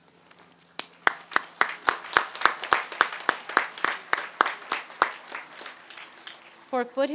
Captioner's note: applause